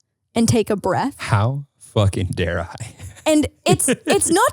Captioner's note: laughing